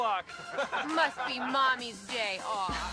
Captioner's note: men chuckling